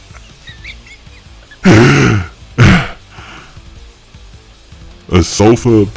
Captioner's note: wheezing laughter